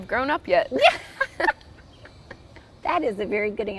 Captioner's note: both laughing